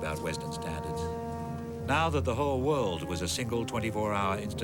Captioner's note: speaking in russian